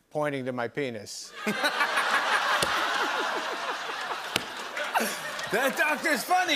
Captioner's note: laughter